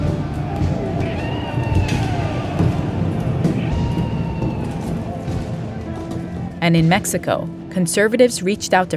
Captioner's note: soundbite of war